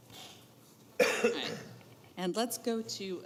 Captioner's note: coughs